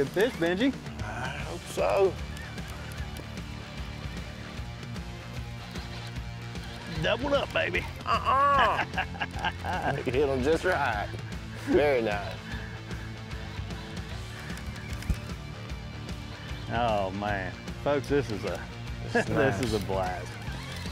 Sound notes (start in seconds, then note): 8.9 laughs